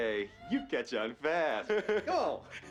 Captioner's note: chuckles